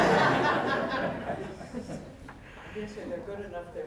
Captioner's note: audience laughing